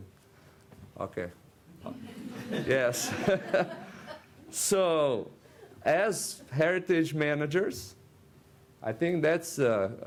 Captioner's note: rires de l’auditoire